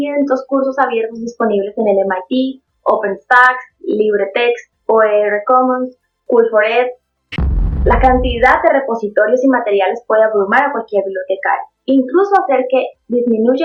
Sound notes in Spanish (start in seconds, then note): 7.3 boom